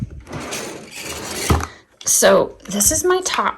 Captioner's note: drawer sliding